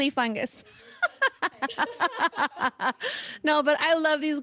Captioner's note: laughter